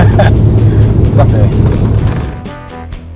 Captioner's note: laughs